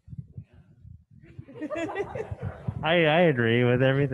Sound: laughing

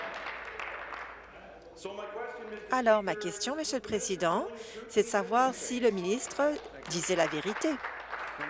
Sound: applause

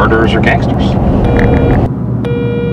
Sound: phone rings

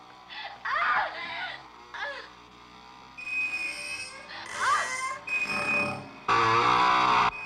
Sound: screams

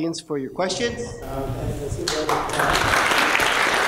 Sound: applause

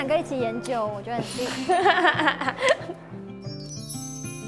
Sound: playful laugh

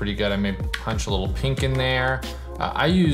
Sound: keyboard clicks

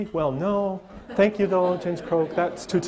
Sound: audience laughter

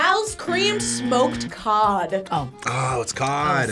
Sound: buzzer buzzing

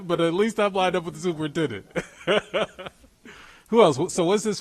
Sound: laughs

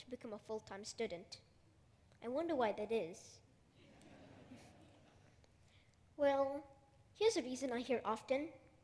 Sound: laughter

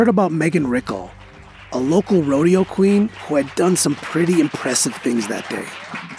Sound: applause

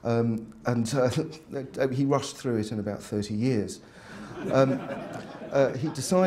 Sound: laughter

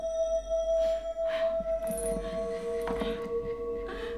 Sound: eerie Sound

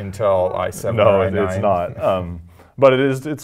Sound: laugh

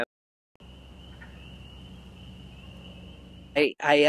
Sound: nature sounds

